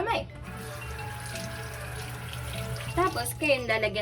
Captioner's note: water pouring